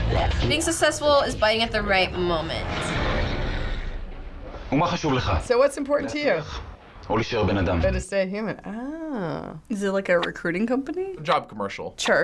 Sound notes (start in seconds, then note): 3.2 snake hissing